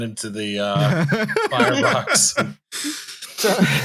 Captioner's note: laughs